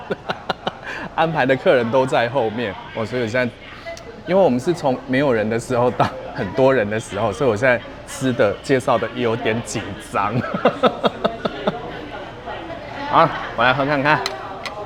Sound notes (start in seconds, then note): 0.0 laughter; 10.3 laughs